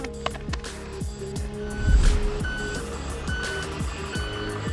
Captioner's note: vehicle reverse sound